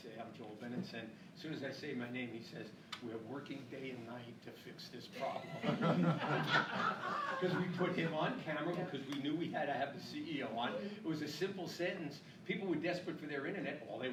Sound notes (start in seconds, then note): 5.3 laughing